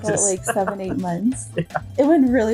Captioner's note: laughs